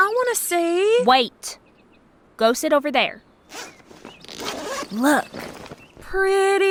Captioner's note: snaps